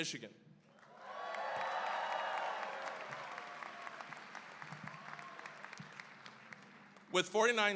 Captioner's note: cheering, applause